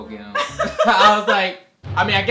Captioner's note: laughs